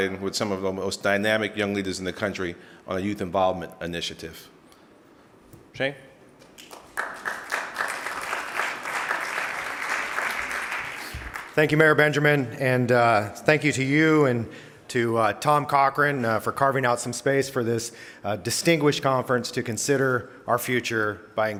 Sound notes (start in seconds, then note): 6.6 audience applauding